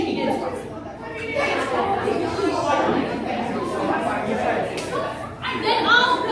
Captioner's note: everyone argues